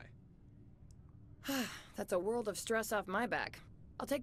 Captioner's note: sigh